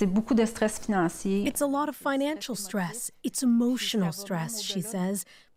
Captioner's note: speaking French